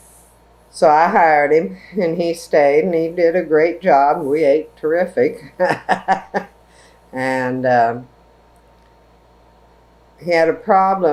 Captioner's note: laughs